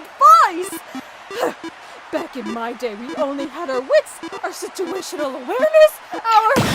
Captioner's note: huffs